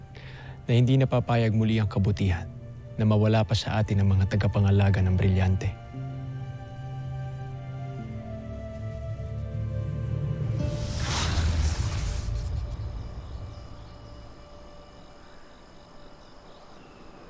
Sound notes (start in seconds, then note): 7.1 music fades; 10.5 evil energy whoosh & crackle